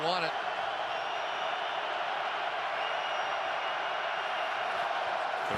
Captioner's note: cheers